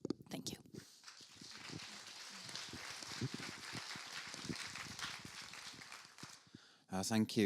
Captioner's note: applause